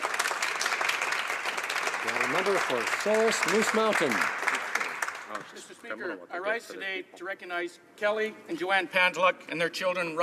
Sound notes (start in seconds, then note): 3.0 applause